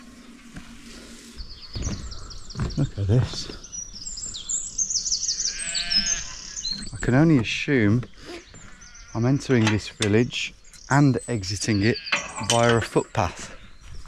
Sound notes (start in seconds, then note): 3.8 birds chirp; 3.8 sheep bleats